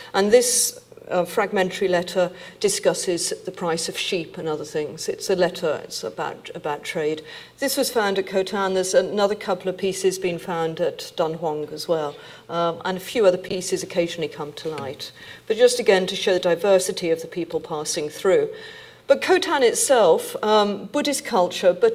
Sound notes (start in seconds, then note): none